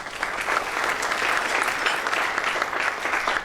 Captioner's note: applause